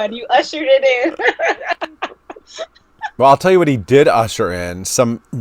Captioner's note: laughing